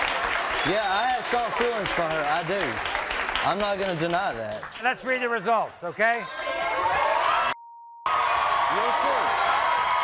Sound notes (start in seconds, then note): 6.1 audience cheering